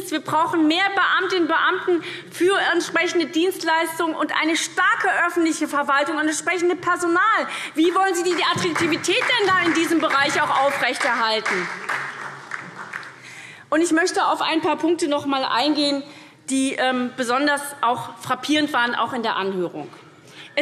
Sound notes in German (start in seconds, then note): 11.5 Beifall SPD und DIE LINKE